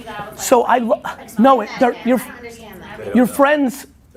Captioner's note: voices chattering